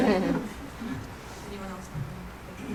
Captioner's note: laughter